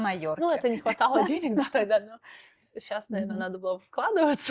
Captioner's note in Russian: смех